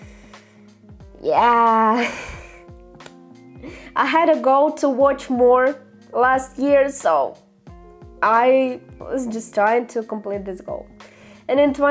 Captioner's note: sigh